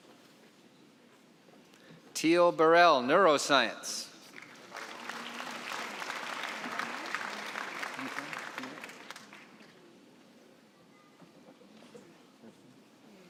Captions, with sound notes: Teal Burrell, neuroscience. (applause)